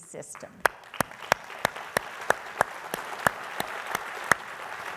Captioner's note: audience applauding